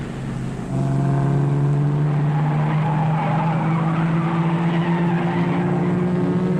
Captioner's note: engine rumbling; tires squealing